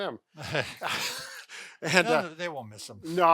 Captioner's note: laughing